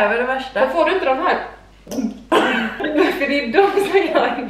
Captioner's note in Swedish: Hulkande ljud